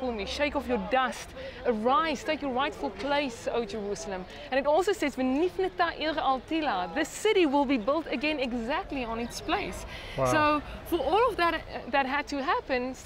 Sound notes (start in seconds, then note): 5.0 speaks in Hebrew